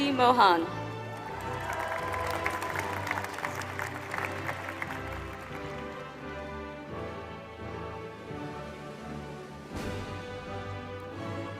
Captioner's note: applause